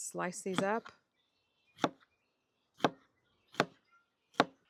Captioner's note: knife chopping